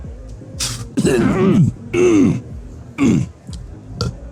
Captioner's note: cough; burp